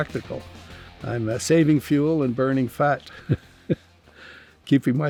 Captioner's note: laughs